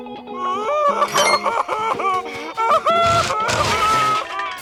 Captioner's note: crying